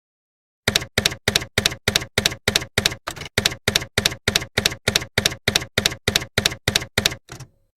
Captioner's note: typewriter keys clacking